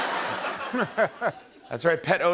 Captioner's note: laughter